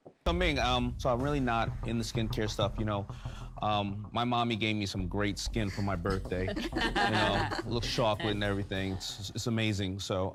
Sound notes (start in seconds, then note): 6.0 Sharks laughing